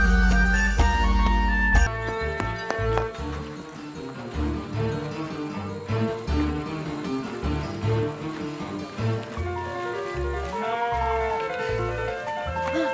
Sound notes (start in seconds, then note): 1.8 tense music playing; 10.4 sheep bleats